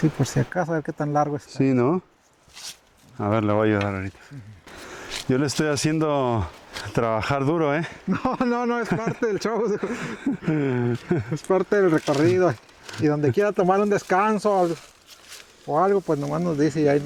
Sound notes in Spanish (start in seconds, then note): 7.9 risas